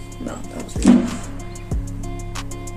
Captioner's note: slam